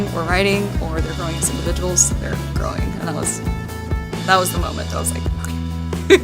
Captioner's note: laughs